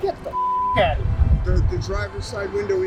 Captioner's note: beep